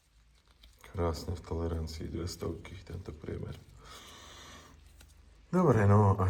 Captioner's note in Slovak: smrkanie